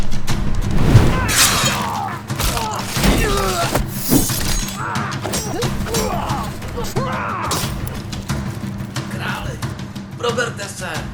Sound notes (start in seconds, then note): 1.3 battle sounds